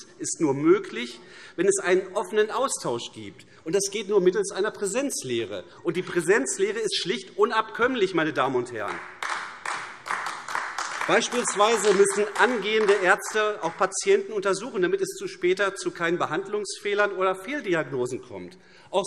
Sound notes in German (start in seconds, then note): 8.8 Beifall AfD